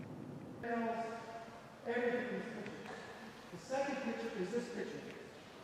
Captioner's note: guide faintly speaking